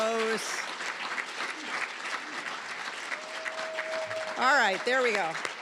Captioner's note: applause